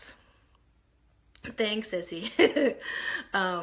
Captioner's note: laughs